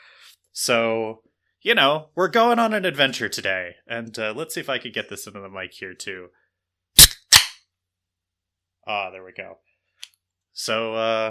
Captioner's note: can opens